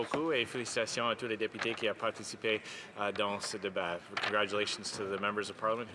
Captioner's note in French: voix de l'interprète